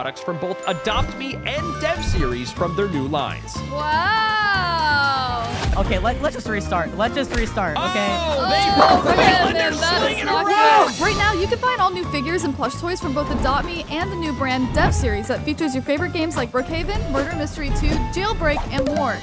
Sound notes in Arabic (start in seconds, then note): 7.8 المشاركون يصرخون